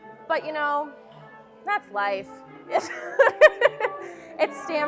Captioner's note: laughing